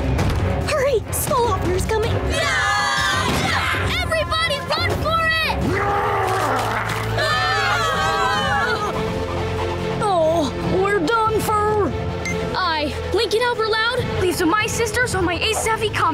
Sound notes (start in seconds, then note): 1.9 yelling; 5.6 screaming; 5.8 growling